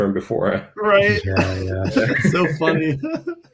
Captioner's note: laughter